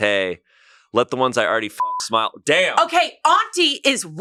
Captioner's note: beep